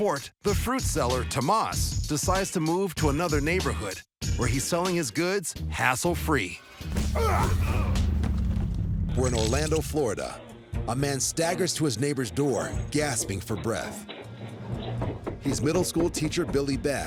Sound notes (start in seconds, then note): 7.1 grunting